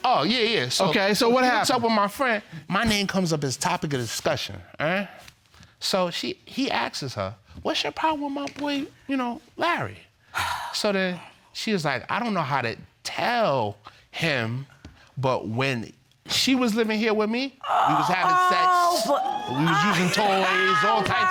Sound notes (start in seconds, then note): 10.3 sighs; 18.6 laughs